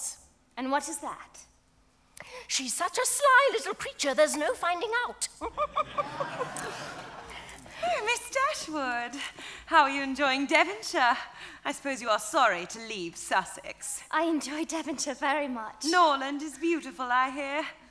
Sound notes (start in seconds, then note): 5.4 audience laughs